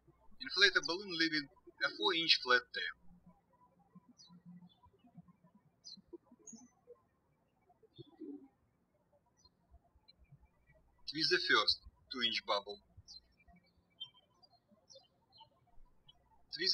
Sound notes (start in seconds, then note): 3.9 birds chirping